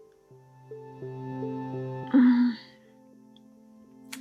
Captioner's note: sigh